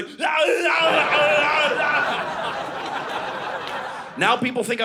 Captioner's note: Yelling like Predator; audience laughing